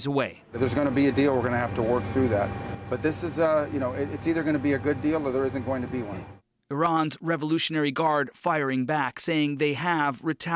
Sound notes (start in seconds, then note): none